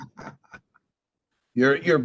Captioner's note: laughter